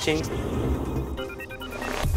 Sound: low whooshing; upbeat music

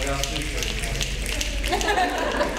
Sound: snapping; talking; audience laughing

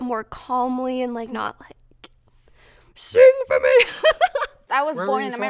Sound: laughs

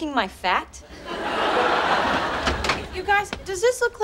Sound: audience laughing

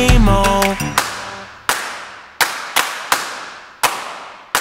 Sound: clapping five times

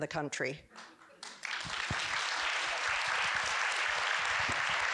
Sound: audience clapping

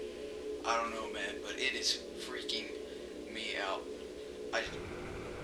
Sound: static

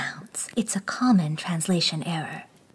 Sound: whispers

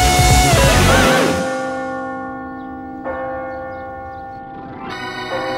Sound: bell tolling; organ plays

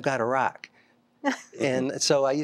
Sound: laughter

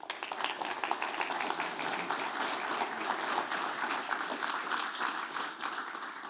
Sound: applause

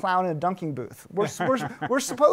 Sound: laughs

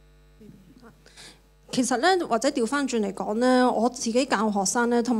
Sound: Cantonese

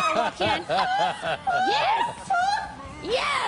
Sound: laughter

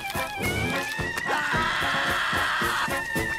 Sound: screaming

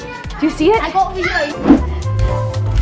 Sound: kids shouting; footsteps

